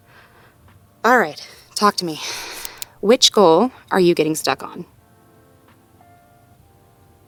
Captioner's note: speaker clicks a pen